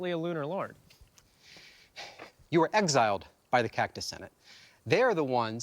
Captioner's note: huffs